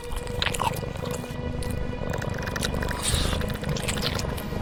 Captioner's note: creature slurping